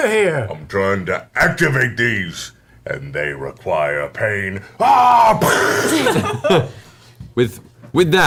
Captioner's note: yells